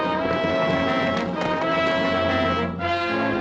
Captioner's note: horse galloping